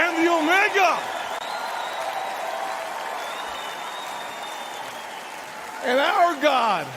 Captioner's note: crowd cheers